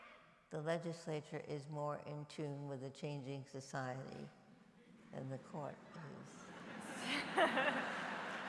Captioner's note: applause